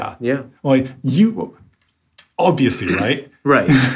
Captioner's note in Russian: смеется